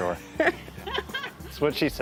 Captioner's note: laughs